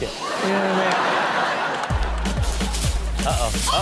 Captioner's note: audience laughs